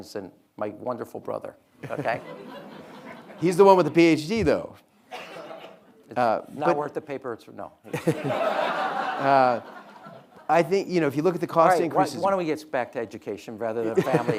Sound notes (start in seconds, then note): 1.8 audience laughing; 7.9 audience laughing